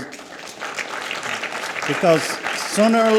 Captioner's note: audience applauds